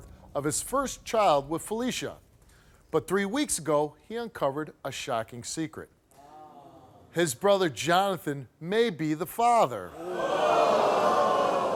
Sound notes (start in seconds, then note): 9.8 crowd